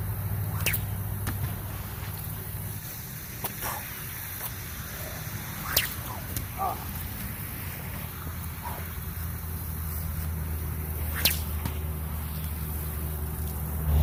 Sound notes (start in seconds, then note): 0.4 sling whips; 1.2 splash; 4.9 sling whips; 5.6 splash; 8.6 exhale; 10.9 sling whips; 11.1 splash